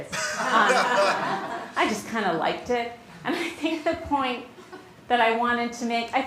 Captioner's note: laughter